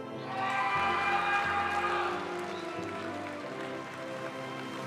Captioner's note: audience cheering and applauding; graduation music